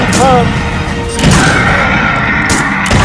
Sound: gunshots ringing; dinosaur screeching

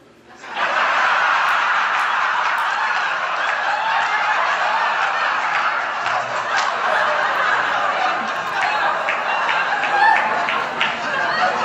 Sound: laughing

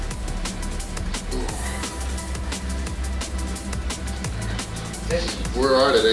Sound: intense music; exhales

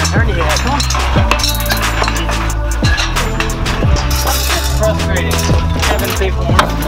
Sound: cool vibe music; men murmuring

